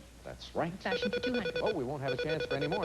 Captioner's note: beep-beep